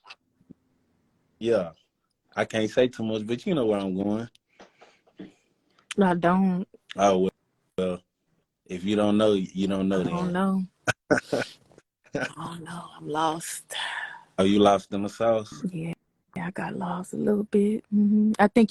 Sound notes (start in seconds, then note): 10.8 laughter